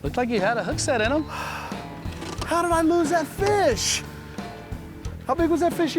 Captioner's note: sighs